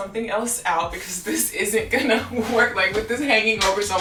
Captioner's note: laughs